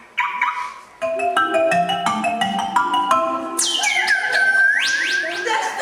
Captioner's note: sound of car alarm